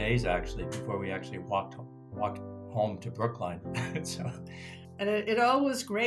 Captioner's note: laughs